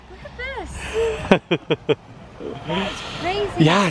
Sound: laughs

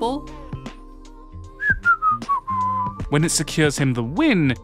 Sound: whistles

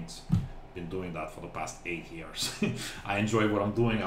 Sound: laughs

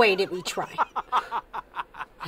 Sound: laughter

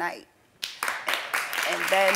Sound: audience applauds

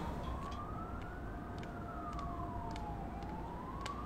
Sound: distant siren wailing

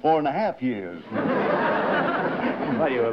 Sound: laughter

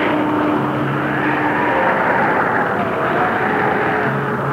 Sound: wind howling

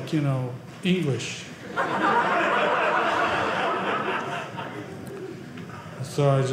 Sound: audience laughing

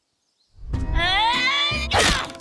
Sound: grunting

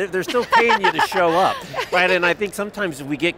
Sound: laughs

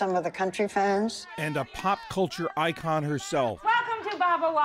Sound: voice-over

